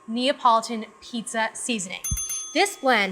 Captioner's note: ding, ding ding